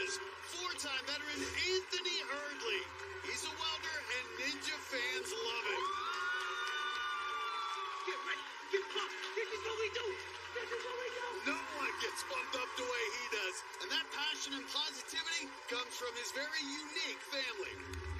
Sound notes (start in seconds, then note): 5.5 cheers and applause